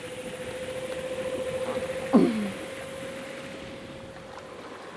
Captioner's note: grunting; boat engine whirring